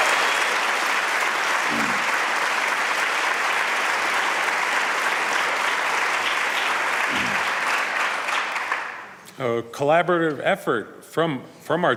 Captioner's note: applause